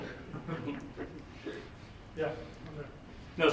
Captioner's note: laughs